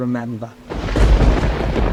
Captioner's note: thunder